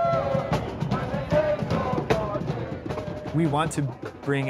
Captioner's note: fan cheering; fans chanting